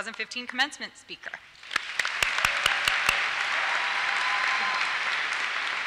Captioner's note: applause and cheers